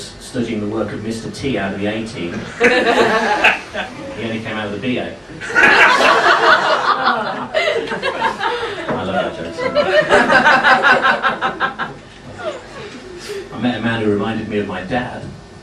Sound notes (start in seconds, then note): 2.4 laughing; 5.4 laughing